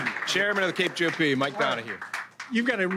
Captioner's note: cheers